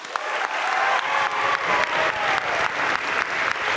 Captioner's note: crowd applauding